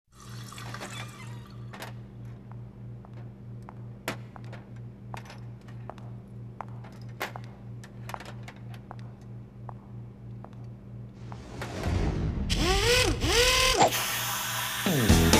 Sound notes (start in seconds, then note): 0.1 water running; 0.2 faucet squeaking; 2.7 footsteps clacking; 12.5 drill whirring